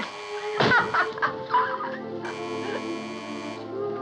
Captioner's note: laughing; buzzing Continues